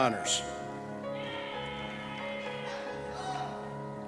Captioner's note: cheers